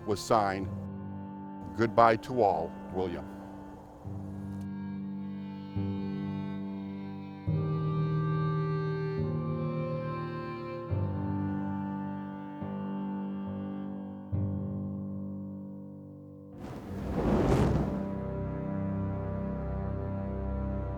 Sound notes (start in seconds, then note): 4.0 somber music continues; 16.6 flames crackle